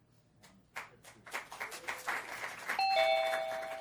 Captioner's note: audience applauding; faintly speaking; bell rings